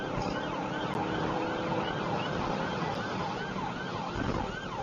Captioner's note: engine accelerating